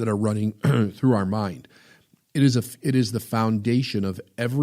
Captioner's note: clears throat